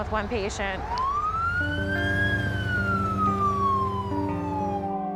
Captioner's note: siren wailing; somber music plays